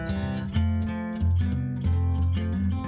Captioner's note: none